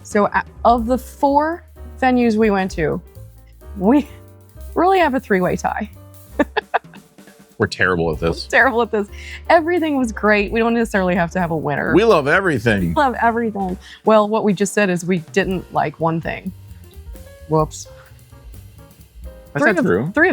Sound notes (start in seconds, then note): 6.4 laughing